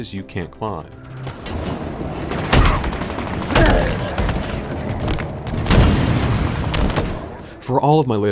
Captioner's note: gunfire intensifies